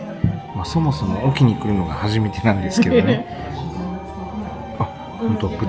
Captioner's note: laughs